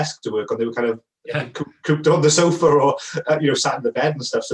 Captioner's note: chuckles